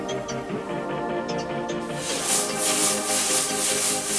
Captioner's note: machinery whirring